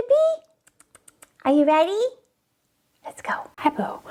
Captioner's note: smacking lips